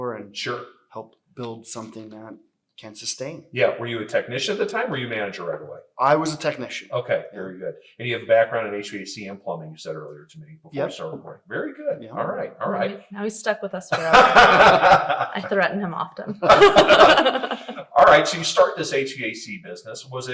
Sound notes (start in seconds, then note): 13.9 laughing; 17.4 laughs